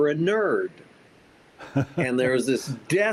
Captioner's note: laughs